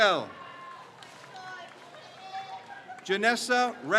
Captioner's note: crowd cheers